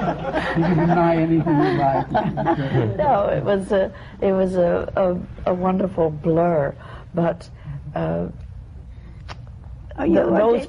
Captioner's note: laughter